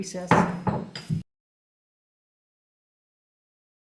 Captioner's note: gavel tapping